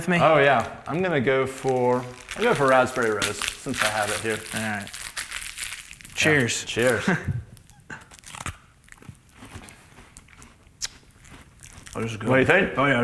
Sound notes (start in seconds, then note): 3.4 plastic crinkles; 7.4 crunches